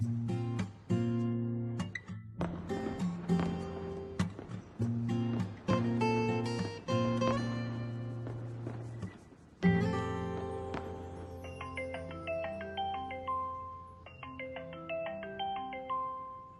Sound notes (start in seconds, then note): 9.5 Llamada de voz